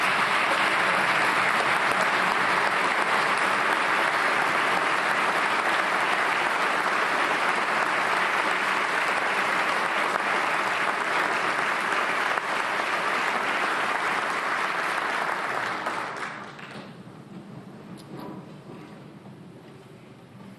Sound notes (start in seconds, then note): 3.3 applause